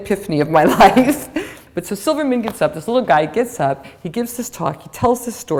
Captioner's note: chuckle